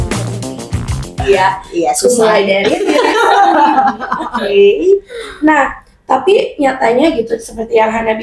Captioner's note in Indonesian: tertawa; terkesiap